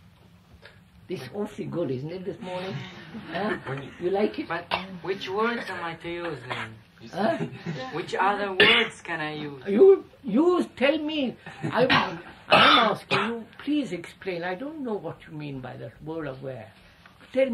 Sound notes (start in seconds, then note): 3.3 laughter